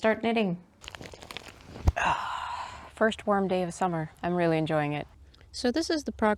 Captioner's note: footstep rustles and a sigh